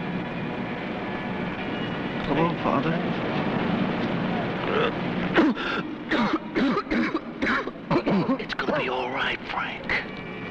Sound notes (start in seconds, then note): 6.0 Frank coughing